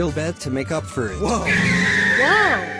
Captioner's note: car squealing